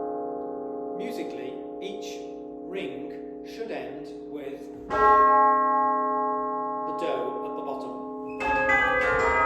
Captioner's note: rings